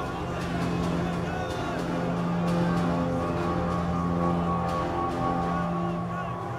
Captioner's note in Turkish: Bağırma sesleri